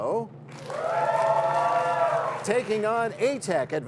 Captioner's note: cheers and applause